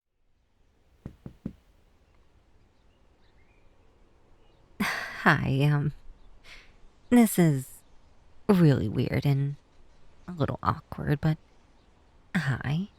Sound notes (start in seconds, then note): 1.0 knock x3